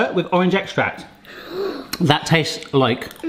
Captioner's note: gasps